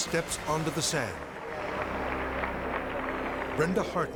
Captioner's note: crowd applauding